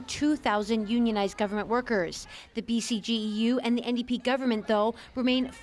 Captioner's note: chanting